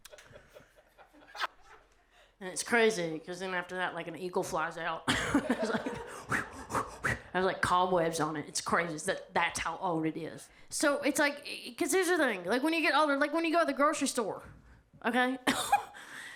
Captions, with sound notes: (audience laughing) It's crazy, 'cause then after that, like an eagle flies out. (audience laughs) There's like cobwebs on it. It's crazy. That's how old it is. So it's like, 'cause here's the thing, like, when you get older, like, when you go to the grocery store, okay,